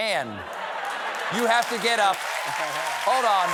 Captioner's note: laughter; applause